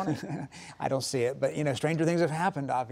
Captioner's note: laughs